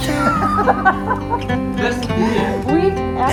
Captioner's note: we just burst into laughter